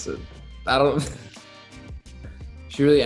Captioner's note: Noah laughs